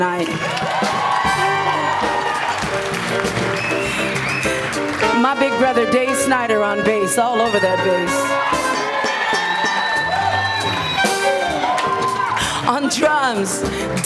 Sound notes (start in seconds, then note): 0.0 applause; 8.4 applause